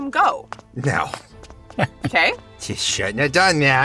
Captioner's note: HANS chuckles